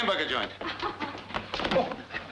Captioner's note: Roma giggles